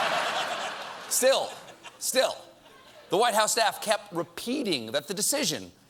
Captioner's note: laughter